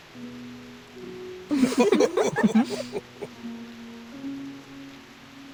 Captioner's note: laughters